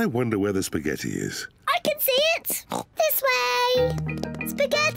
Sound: oinks

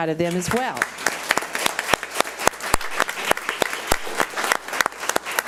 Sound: audience applauds

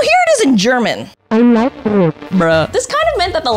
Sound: AI talks in German

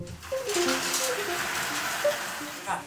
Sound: metal clanking

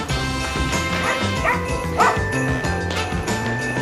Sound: barking sounds

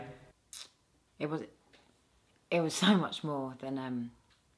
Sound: liv kisses teeth

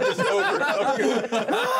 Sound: laughs

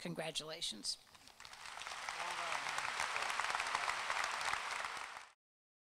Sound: applause

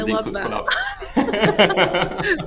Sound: laughter

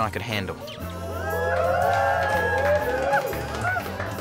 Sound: people cheer

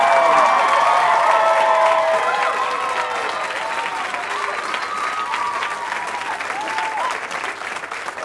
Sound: cheering, applause

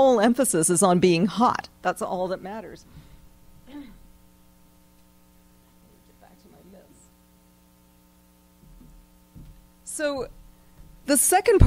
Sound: pause

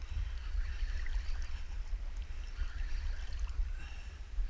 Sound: line reeling

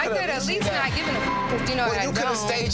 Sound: beep

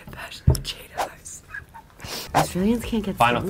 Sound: laughs

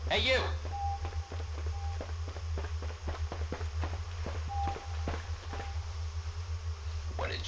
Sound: running

